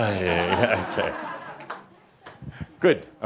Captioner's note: laughter